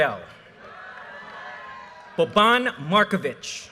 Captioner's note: audience cheers and applause